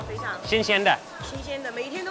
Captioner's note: woman speaks in a foreign language; speaks in a foreign language; woman speaks in a foreign language